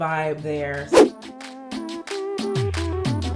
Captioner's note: air whooshing; upbeat clapping music